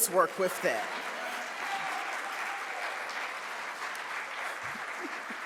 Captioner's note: audience applauds